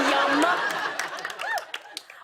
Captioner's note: applause